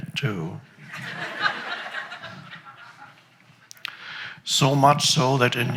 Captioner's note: audience laughs